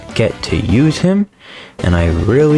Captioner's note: inhales Oxygen